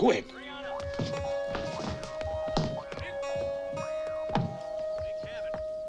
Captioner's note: group chattering distantly